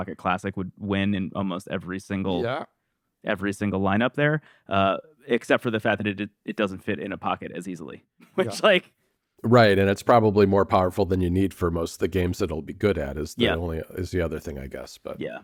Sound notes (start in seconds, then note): 8.3 laughs